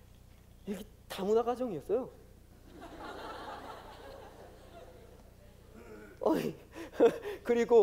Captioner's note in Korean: 웃음